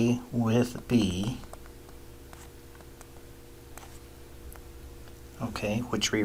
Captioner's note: writing Sounds